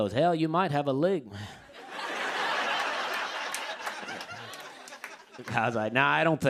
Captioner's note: laughter